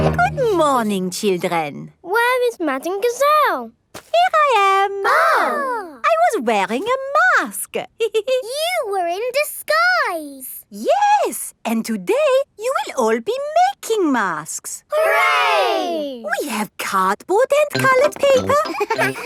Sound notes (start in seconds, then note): 5.0 exclaiming; 8.0 giggles